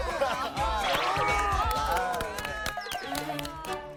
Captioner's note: clapping wildly